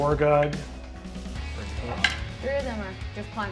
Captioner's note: die rolls